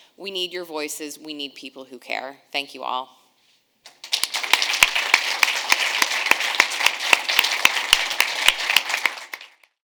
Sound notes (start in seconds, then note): 3.9 audience applauds